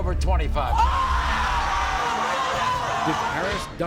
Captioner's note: audience oohs